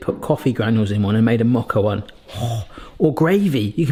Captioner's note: exhales heavily